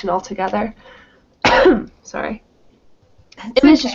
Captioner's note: coughs